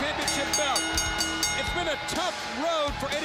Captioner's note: bell ringing